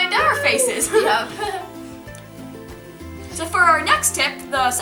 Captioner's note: laughs